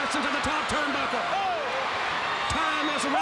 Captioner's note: crowd cheering